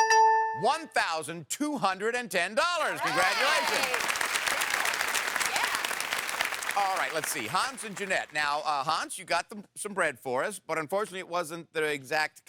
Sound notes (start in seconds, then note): 2.7 audience applause